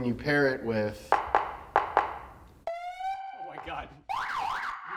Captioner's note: siren blaring